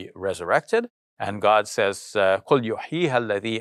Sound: speaks in arabic

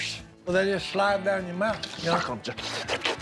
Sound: slurping

